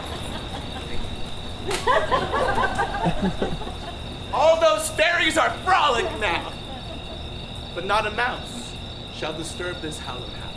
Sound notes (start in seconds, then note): 2.0 audience laughs